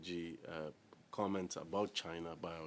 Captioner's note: speaking French